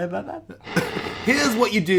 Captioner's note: buzzing